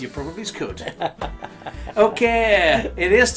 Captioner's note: chuckling